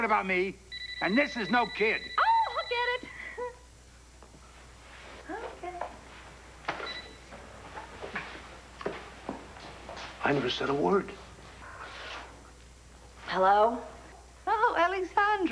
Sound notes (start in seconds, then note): 2.9 telephone rings